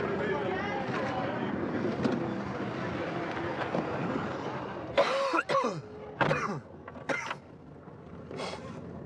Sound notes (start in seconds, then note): 5.0 coughing